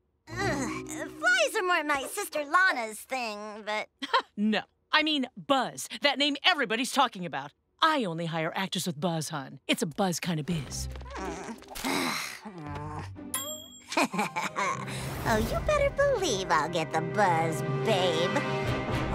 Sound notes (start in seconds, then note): 4.0 laughs; 13.9 chuckles